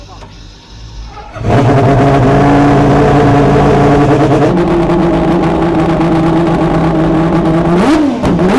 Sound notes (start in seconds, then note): 1.1 race car revving